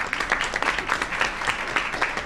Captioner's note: applause